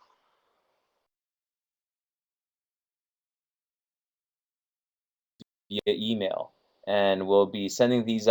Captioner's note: audio interrupted and silence - 1:04:32 - 1:04:42